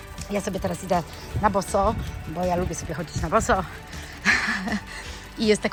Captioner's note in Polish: śmiech